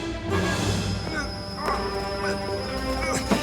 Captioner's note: groaning